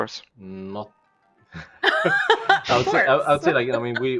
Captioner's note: laughs